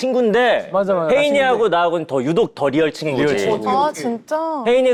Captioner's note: emphasizing